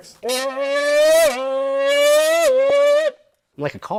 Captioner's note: can blowing